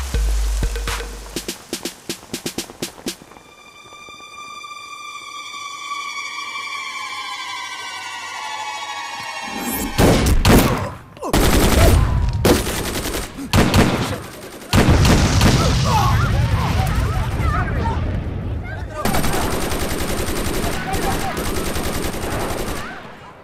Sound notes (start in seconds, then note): 9.9 Gunshot; 12.4 Rapid gunfire; 14.8 Gunshot; 19.0 Rapid gunfire